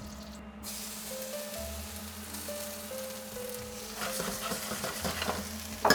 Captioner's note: sizzling sound